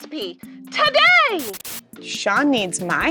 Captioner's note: TV screen crackles